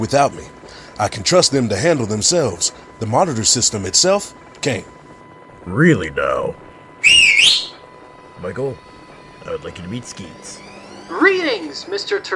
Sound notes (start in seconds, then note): 7.0 whistle